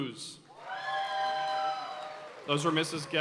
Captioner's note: audience cheering and applauding